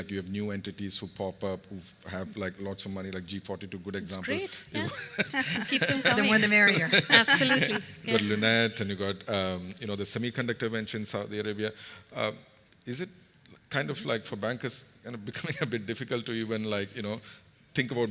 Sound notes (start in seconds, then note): 4.8 laughter